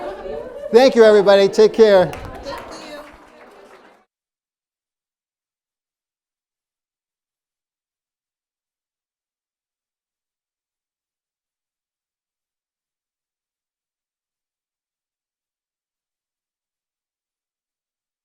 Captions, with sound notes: Thank you, everybody, take care. Thank you. (audience applauding)